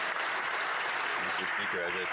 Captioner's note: some Applause